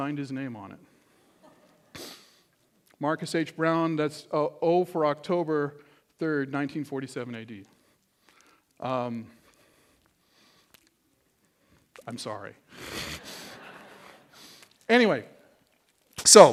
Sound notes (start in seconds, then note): 12.9 laughter